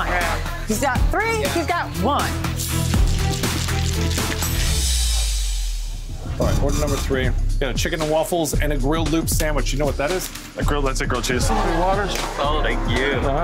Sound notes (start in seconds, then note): 2.6 ice banging in shaker